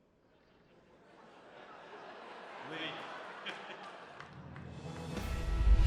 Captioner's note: audience laughs